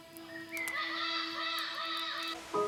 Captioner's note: animals squawking